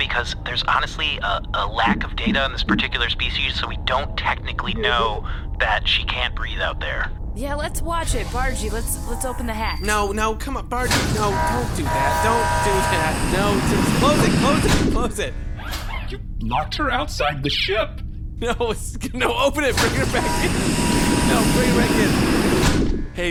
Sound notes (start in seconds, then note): 12.3 hatch beeping and opening noises; 15.0 hatch shutting noise; 23.1 hatch opening noise and shutting noise